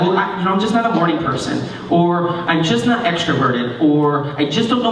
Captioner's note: none